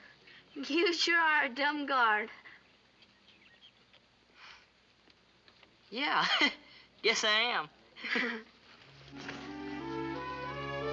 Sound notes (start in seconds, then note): 4.2 chuckles; 8.0 both chuckle